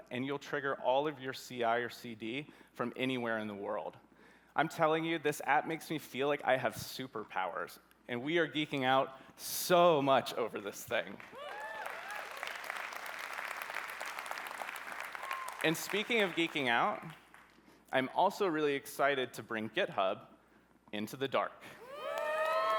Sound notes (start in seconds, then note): 11.3 cheering